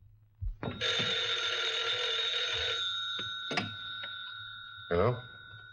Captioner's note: phone rings